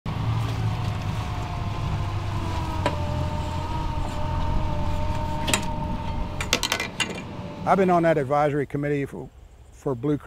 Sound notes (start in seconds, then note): 0.1 boat motor humming; 5.7 metal clanking